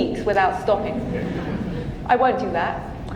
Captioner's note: audience laughing